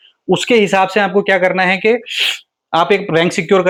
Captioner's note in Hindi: नाक से की जाने वाली आवाज़